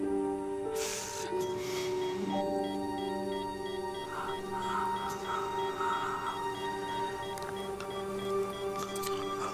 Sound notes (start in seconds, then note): 1.4 monitor beeping fast; 4.5 breathing